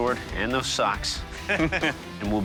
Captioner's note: chuckling